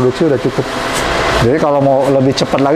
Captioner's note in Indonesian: suara mesin printer